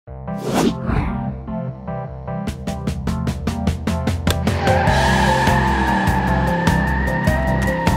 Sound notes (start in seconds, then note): 4.3 tires screeching